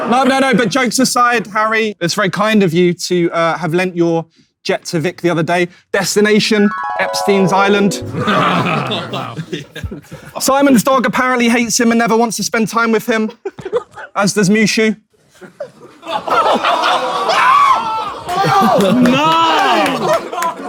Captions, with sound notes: No, no, no. But jokes aside, Harry, it's very kind of you to have lent your jet to Vik the other day. Destination, Epstein's Island. [people in room chuckling] Simon's dog apparently hates him and never wants to spend time with him. As does Mushu. [people in room groan and laugh] [shrieks]